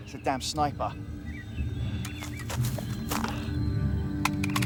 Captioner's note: birds chirping